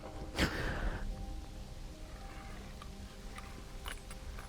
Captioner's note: Arawn gasping; shell clicking